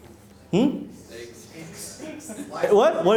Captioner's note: laughing